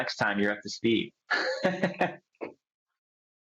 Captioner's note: chuckles